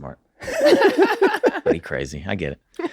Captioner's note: everyone laughs